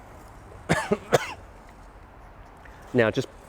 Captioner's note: coughing